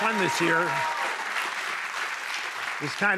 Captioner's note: cheers and applause